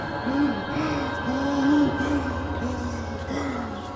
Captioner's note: gasping harshly